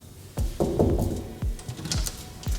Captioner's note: knocking